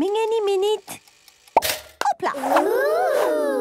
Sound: toaster ticking; pops

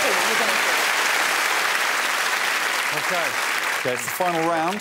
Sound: cheers and applause

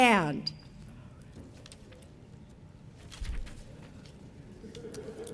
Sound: audience members chattering; audience laughing

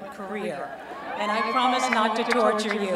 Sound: cheering

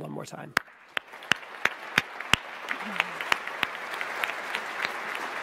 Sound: audience applauds

